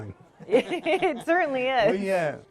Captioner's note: chuckling